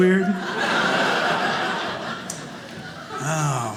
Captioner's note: audience laughing